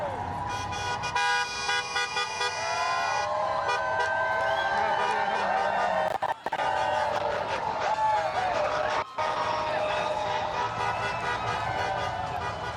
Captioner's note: honking; cheering